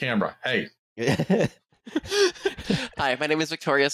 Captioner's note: laughter